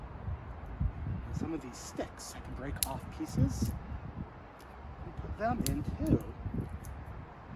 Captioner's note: sticks snapping